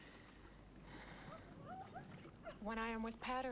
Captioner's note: Hundra sighs